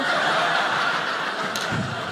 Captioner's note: audience laughing